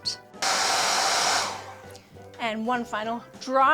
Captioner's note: hair dryer blowing